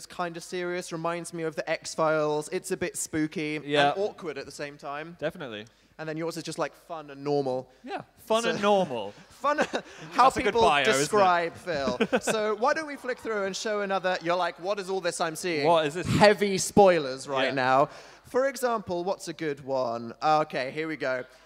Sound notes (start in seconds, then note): 11.5 laughing